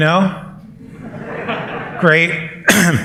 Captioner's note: laughter